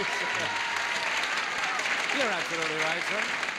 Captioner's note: audience applauds